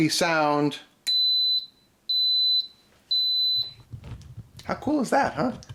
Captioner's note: Instant Pot beeps